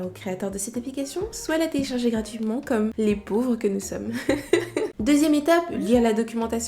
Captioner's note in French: rires